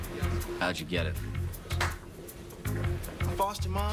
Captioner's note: claps hands